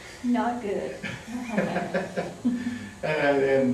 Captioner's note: laughter